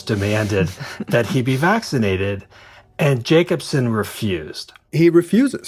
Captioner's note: chuckles